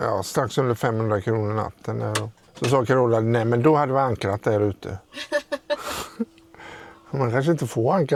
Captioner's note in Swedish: skratt